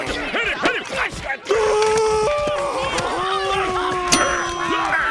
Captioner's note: screaming